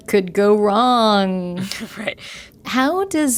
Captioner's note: laughter